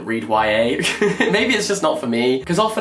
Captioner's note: laughs